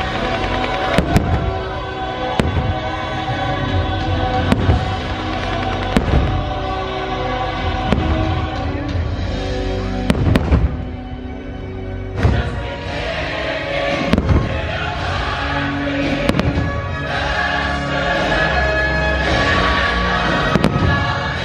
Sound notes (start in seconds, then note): 0.2 rousing instrumental music; 4.5 fireworks exploding